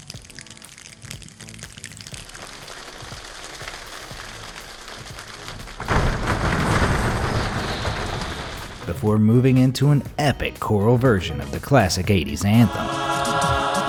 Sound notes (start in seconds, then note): 0.0 finger snaps; 2.6 thigh tappings; 6.0 feet stamps; 13.6 man beat boxing